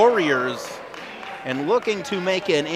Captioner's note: crowd oohs